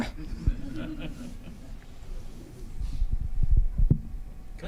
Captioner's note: audience laughing